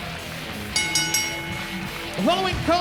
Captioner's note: bell ringing